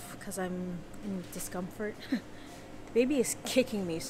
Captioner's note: none